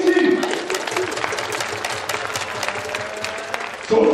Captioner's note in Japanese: 拍手